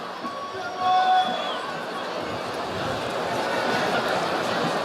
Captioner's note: audience chattering